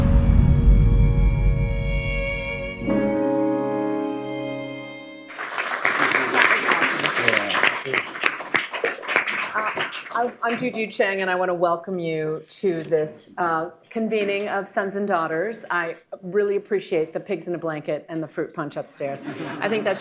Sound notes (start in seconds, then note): 9.1 applause; 19.2 laughter